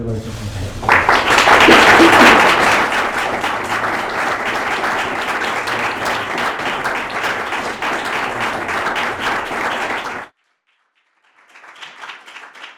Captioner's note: applause